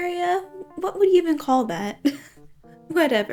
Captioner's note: chuckles